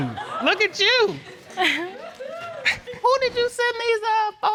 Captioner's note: chuckles